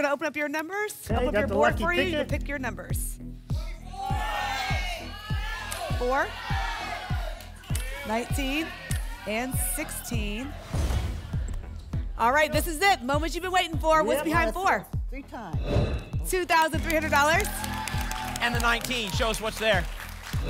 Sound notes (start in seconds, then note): 10.5 thump; 10.7 whoosh; 15.6 whoosh